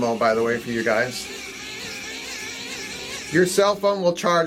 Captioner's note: crank whirring